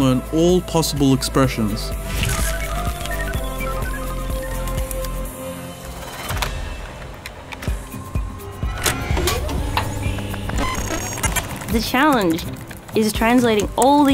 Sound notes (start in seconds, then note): 2.2 rapid electronic beeping; 4.3 upbeat music; 8.8 projector whirring